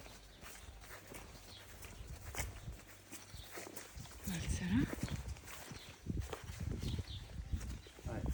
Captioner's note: birds chirping; speaking in foreign language